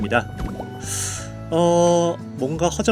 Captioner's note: sigh